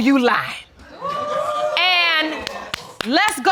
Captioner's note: audience exclaiming